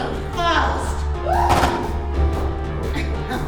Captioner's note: Mia screaming; gun firing; Miss. Fang laughing